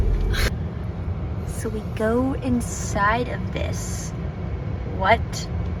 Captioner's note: train